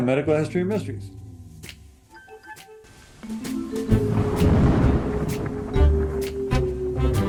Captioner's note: pensive music; thunder rumbling